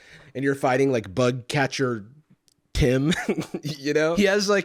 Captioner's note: chuckles